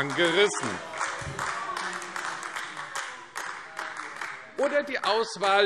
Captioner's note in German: Beifall AfD - Zurufe